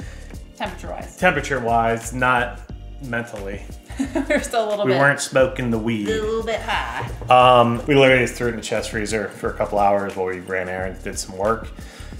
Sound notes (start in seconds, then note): 3.9 laughs